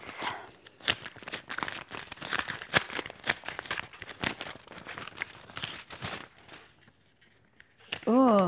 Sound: rustling of letter

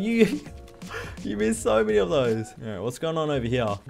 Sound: laughs

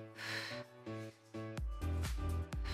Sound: exhales

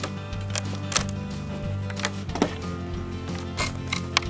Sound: wood splitting

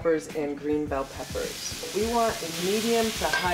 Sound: sizzling

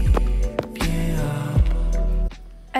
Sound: footsteps

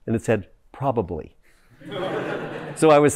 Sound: laughter

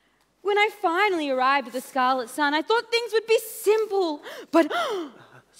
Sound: gasp

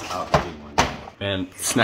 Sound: slams

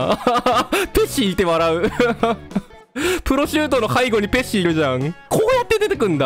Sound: laughter

